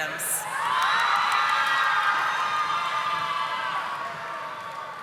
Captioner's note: audience applauding